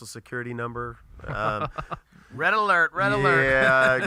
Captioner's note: laughs